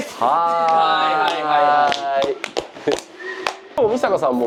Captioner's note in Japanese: 拍手